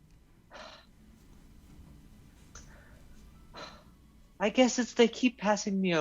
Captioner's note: sighs; sighs a second time